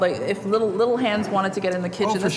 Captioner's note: dishes clattering